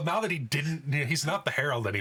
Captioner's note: laughing